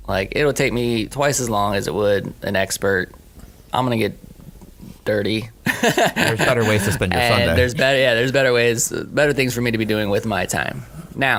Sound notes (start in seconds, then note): 5.6 laughing